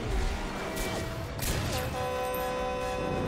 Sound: horn blaring

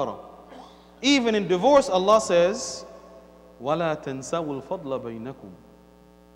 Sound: Arabic

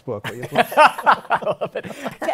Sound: laughs

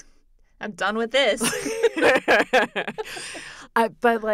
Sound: laughter

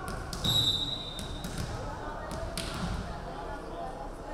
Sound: referee whistling

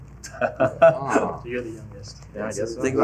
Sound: laughing

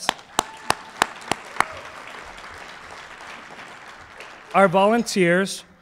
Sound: applause

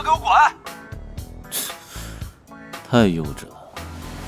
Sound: scoffs

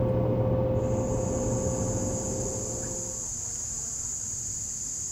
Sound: crickets chirping

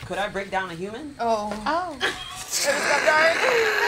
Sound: all laughing

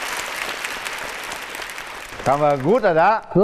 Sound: audience applause

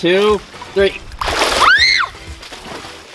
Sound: screams

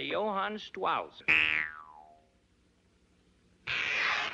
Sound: spring noise

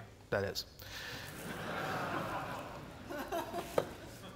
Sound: laughs

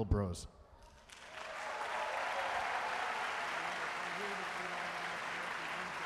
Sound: audience cheering and applauding

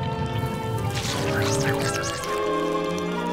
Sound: squelching

